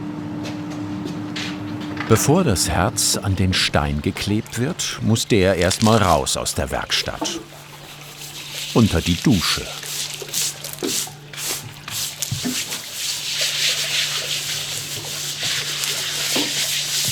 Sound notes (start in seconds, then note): 14.4 rippling